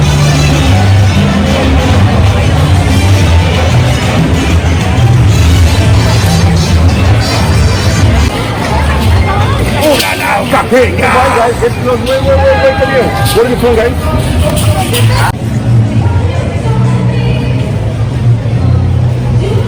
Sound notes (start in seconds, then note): 0.3 lively Mexican music; 10.0 speaking in foreign language; 16.0 vocal singing